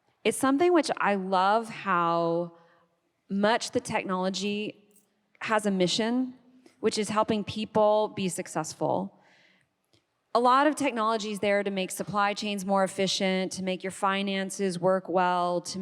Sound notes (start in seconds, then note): none